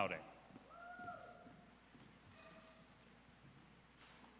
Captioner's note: audience cheers